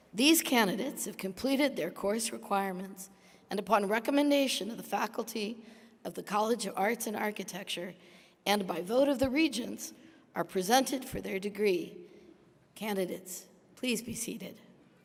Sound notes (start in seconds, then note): none